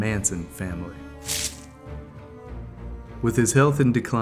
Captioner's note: blood splashing